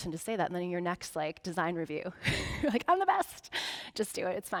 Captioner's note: chuckling